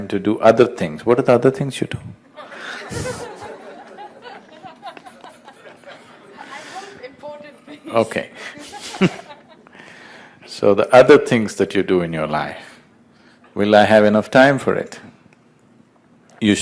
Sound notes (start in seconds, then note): 2.3 laughs